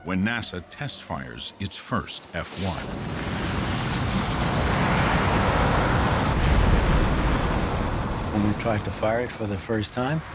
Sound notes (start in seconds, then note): 2.6 flame roaring